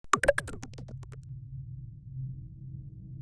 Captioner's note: tapping